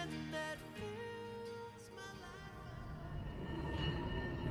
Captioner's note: footsteps tapping and chain rattling